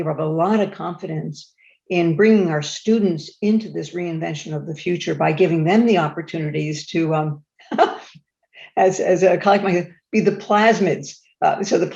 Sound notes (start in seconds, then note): 7.7 chuckles